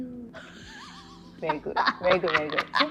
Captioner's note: laughing